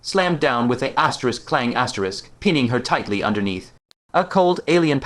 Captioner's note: clang